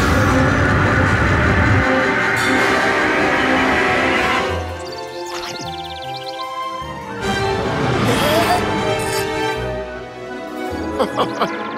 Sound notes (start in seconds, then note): 8.7 grunting; 10.8 laughing